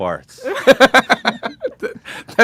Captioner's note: laughs